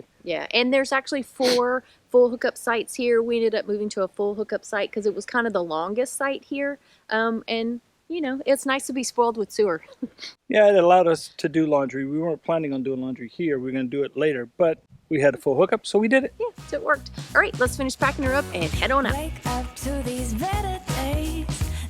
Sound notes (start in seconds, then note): 9.8 laughs